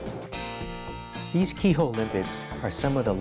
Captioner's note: voiceover